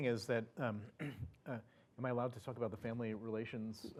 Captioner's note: cough